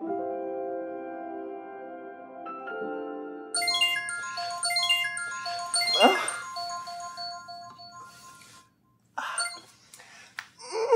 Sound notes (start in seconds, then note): 0.0 gentle piano music; 3.5 electronic chimes